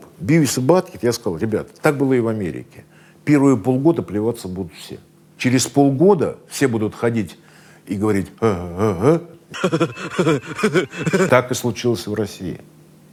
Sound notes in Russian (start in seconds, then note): 9.5 Баттхед смеётся; 9.5 изображает смех Баттхеда